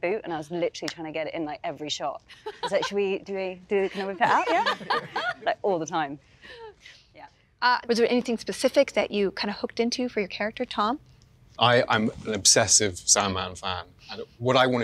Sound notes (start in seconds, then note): 3.8 laughing